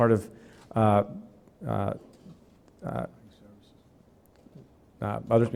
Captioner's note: clears throat